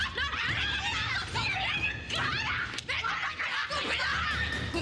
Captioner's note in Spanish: gritos